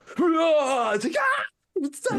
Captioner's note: screaming; laughing